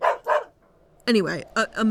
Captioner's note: dog barks